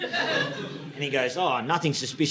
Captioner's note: audience laughing